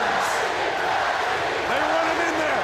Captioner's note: crowd cheering